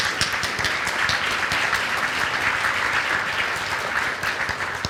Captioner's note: applause